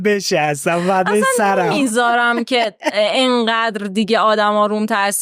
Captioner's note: laughs